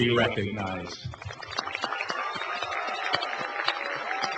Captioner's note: applause